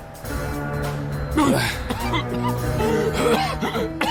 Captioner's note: coughing